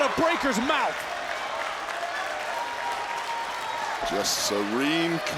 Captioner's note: audience cheering and applauding